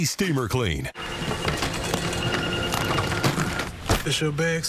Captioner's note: security check noises